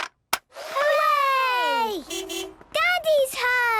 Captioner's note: distant beeping